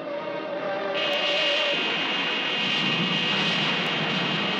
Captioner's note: laser blasting